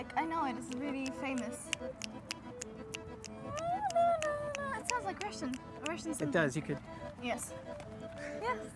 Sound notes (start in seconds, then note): 2.0 snapping; 2.4 vocalizing